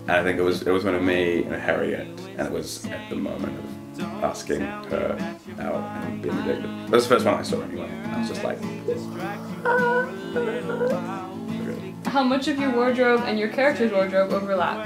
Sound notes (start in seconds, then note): 9.4 soft screaming